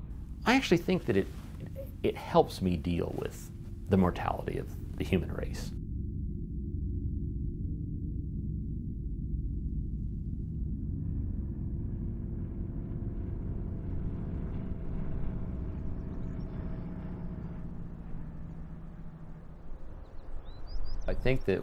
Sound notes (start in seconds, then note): 6.6 low rumble; 14.1 distant plane engine